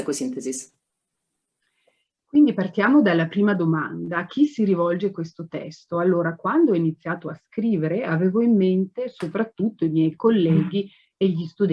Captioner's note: speaking Italian